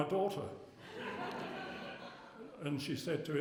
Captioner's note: laughter